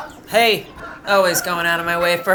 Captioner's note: rooster calls